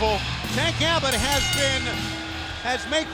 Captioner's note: bell rings